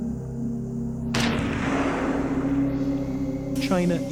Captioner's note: gunshots